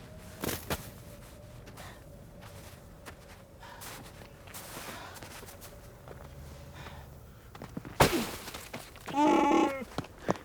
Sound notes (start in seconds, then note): 9.1 Chewbacca roar